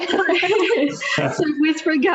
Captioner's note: all laughing